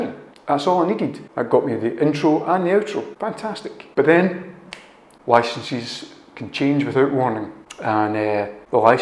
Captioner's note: fingersnap